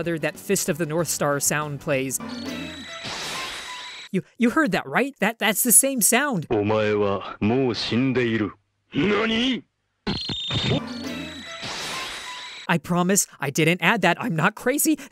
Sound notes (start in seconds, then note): 2.2 tiiiiiiing; 10.0 tiiing